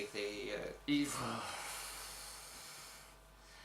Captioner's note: sigh